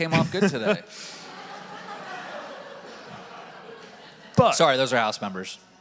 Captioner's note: audience laughing